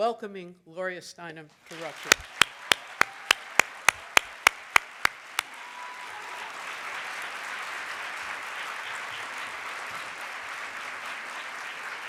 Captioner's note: clapping